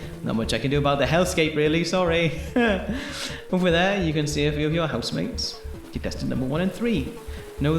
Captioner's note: laughs